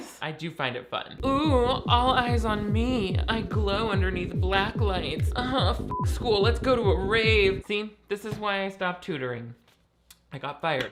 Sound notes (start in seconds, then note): 5.8 beep